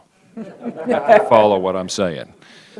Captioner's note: laughter